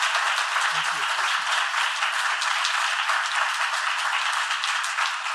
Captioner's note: audience applauding